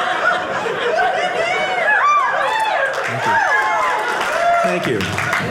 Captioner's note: audience laughing; audience cheering